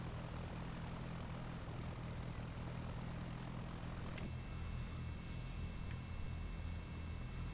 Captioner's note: engine sounds